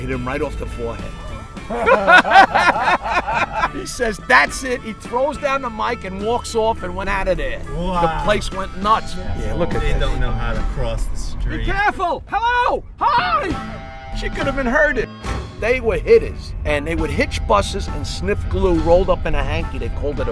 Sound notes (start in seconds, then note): 1.7 laughing